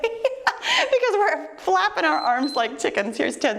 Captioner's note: timer beeps